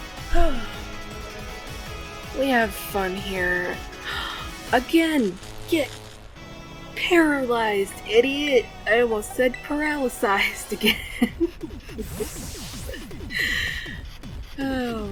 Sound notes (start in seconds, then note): 4.0 gasps; 10.6 laughs